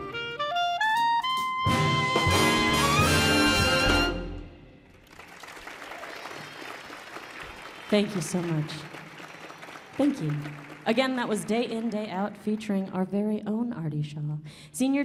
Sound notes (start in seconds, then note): 4.9 audience applauding